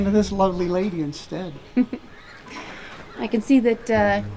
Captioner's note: Bonnie chuckles